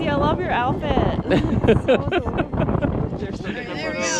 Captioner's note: chuckling